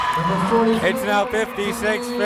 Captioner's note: cheering